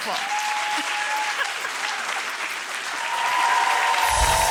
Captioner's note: audience applauds